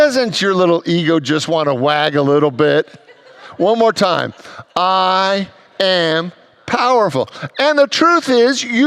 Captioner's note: congregants laughs